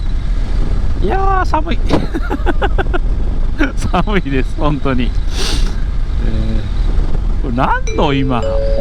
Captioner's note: laughs